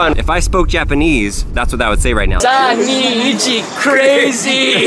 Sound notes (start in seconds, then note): 2.5 speaking Japanese